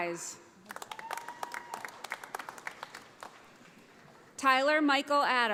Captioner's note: audience applauding